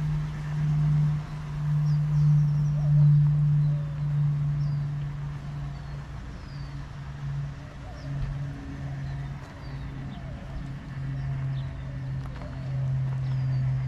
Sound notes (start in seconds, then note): 0.2 birds chirping; 9.2 wind blowing